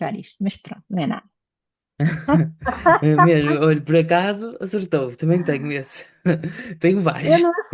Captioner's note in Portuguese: risadas